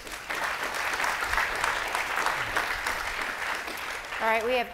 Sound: clapping

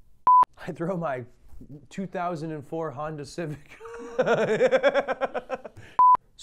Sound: laughs

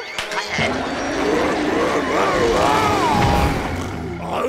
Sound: roaring

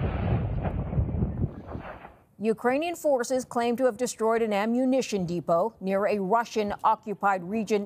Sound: explosion

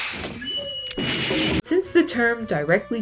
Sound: pew pew

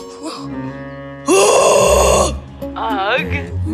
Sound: yelling

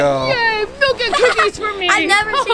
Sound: assistant laughing

